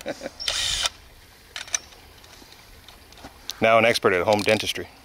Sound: whirring

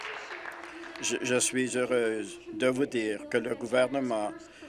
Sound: applause

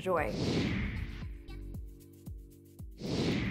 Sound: whooshing

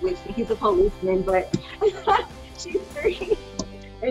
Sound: laughing

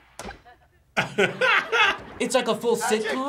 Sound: laughs

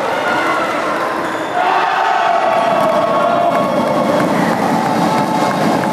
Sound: applause

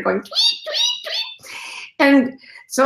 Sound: imitates squawking

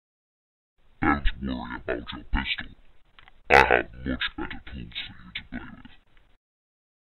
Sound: demon voice

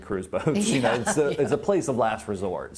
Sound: laughing

